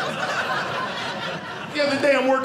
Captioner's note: audience laughing